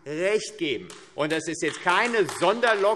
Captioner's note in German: Beifall AfD